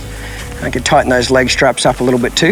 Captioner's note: mouth clicking